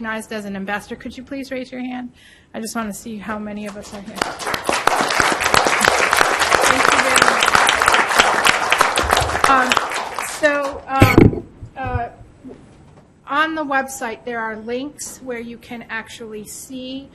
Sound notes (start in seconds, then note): 4.1 audience applauds